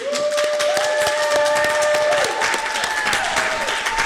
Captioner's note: audience cheering; audience clapping